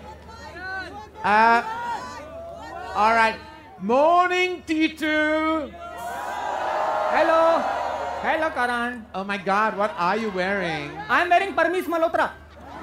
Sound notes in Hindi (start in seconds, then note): 5.8 चियरिंग; 12.6 चियरिंग